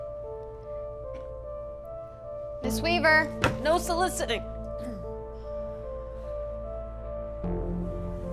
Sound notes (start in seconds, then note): 4.8 clears throat